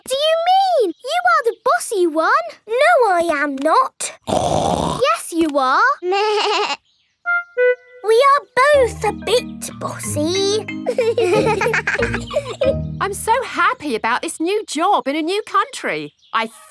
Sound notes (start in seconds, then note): 4.2 snorts; 7.2 bleats; 10.8 both laughing